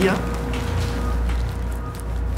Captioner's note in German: Unstete Klänge, Piepen